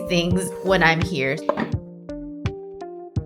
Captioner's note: sound of lid closing